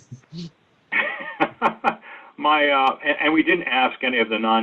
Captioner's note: laughs